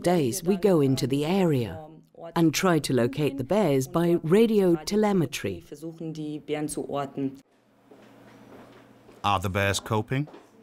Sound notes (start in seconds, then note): 4.9 speaking in foreign language